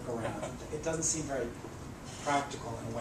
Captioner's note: laugh